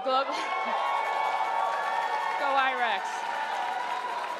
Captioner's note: crowd applauding